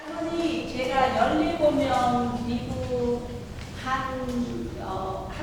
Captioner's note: speaking in foreign language